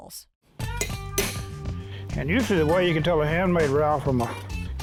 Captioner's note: hammering